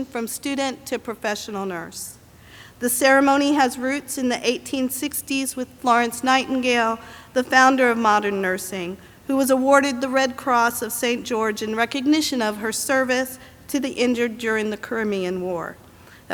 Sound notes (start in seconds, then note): none